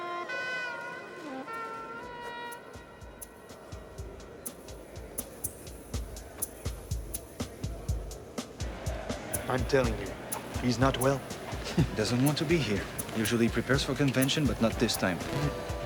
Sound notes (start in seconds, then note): 3.1 people chatter indistinctly in background